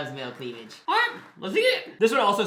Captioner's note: in a silly voice